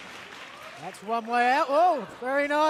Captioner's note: crowd cheering